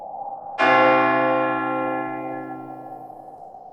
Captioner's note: bell ringing